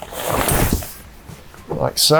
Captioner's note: fabric rustling